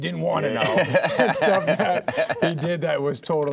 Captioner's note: laughing